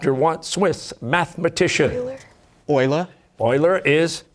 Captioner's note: whispering